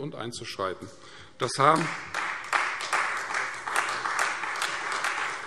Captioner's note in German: Beifall Freie Demokraten